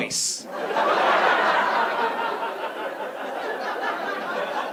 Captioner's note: audience laughing